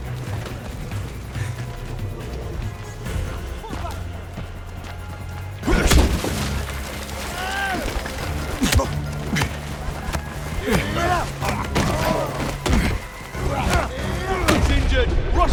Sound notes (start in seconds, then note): 5.2 groaning